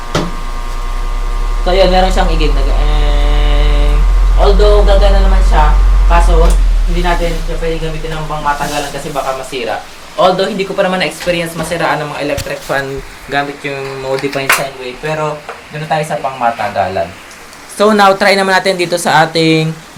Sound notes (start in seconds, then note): 3.1 imitating motor sound